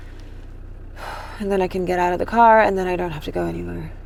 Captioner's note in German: atmet aus